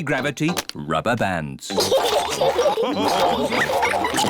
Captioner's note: all laugh